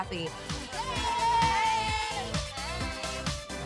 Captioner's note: crowd cheers